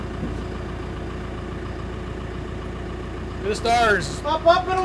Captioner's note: forklift rumbles